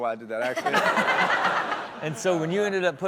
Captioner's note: and audience laughs